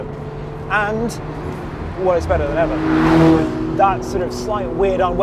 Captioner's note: engine revving